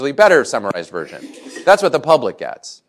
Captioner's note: laughter